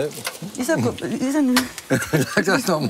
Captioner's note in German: Er lacht